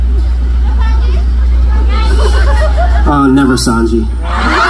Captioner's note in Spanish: Gritos y risas